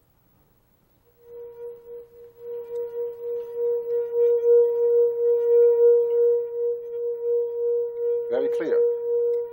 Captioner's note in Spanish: Reproduce tono alto